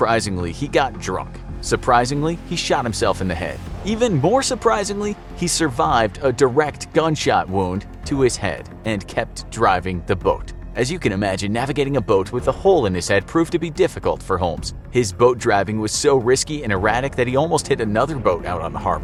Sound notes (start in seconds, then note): 7.0 spoken with emphasis